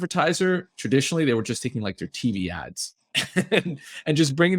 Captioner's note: chuckles